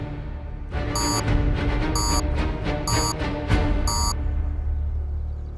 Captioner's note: series of beeps